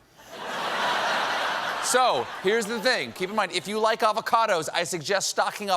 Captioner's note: laughter